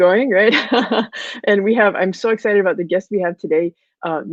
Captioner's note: laughs